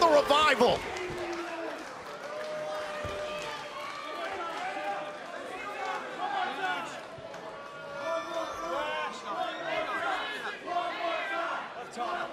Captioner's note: crowd cheering